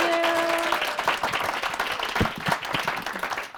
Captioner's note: applause